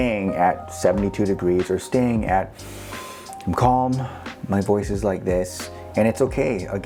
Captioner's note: deep breath